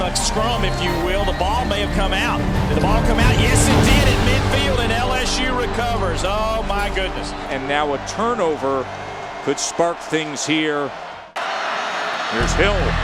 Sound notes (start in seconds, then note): 7.7 voiceover